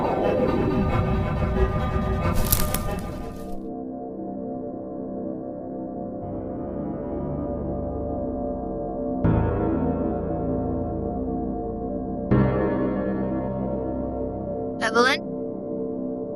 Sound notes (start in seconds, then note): 2.3 music fades; 2.3 twig snaps; 7.2 suspenseful music